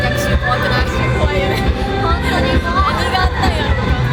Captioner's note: haha